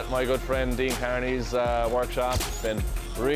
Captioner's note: flash bulb clicks